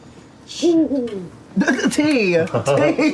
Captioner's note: hoots